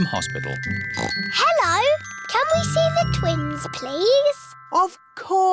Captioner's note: oinks